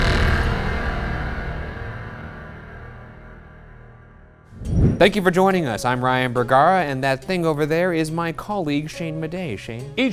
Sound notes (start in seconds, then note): 4.5 air whooshing